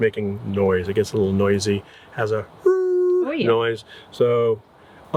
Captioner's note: imitates sound